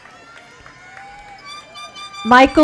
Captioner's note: applaus